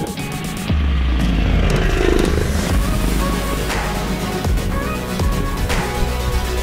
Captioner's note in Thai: เสียงมอเตอร์ไซด์